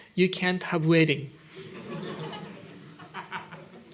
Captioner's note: laughter